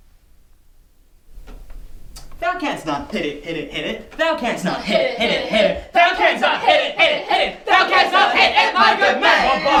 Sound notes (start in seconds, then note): 1.1 rustling; 2.7 singing; 5.1 singing